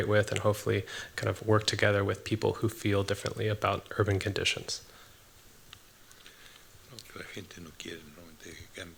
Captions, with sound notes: with, and hopefully work together with people who feel differently about urban conditions? [NON-ENGLISH SPEECH]